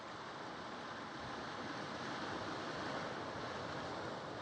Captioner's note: waves gently lapping